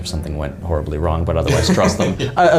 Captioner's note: chuckles